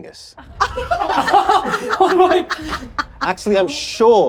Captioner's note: all laughing